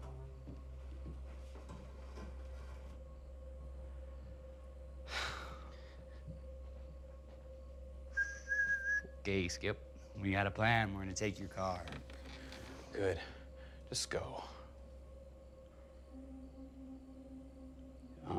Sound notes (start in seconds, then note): 2.5 crickets chirping; 2.5 tense music; 5.0 Ben sighs; 6.0 crickets chirping; 6.0 tense music; 8.1 Tyler whistling; 14.7 crickets chirping; 14.7 tense music